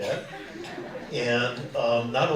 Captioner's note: audience laughing